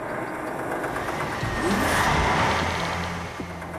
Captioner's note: engines Running